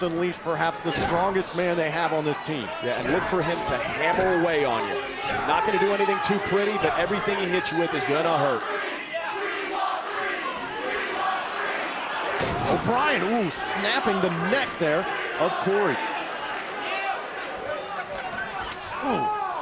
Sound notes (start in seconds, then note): 10.5 crowd cheering